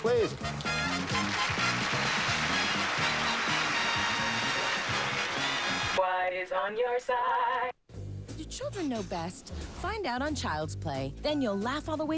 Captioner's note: audience applauding